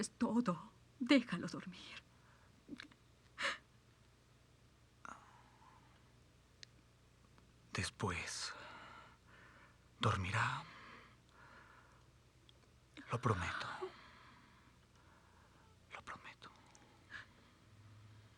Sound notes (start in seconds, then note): none